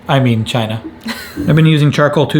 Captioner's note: chuckling